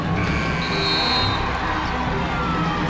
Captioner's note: buzzer